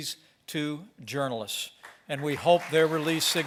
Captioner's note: applause